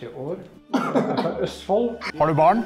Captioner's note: laughs